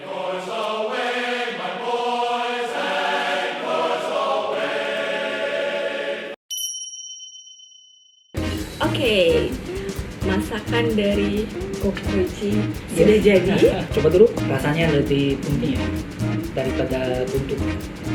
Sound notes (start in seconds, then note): 13.4 laughs